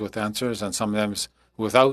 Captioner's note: speaking French